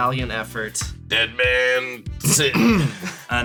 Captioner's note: clears throat